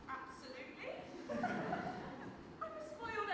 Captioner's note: audience laughs